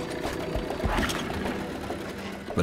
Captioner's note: engine starts